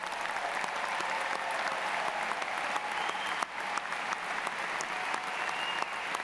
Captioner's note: applause